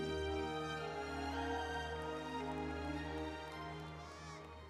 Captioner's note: audience applauds